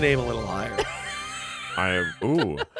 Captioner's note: laughs